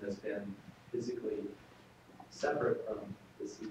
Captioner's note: off microphone